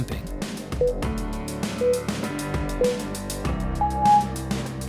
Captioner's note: timer beeping